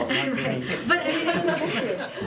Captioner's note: laughter